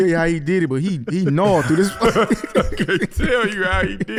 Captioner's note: laughing